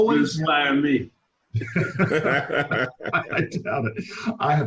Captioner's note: laughing